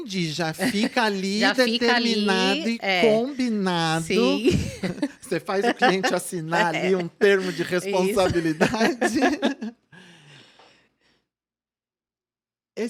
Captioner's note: laughs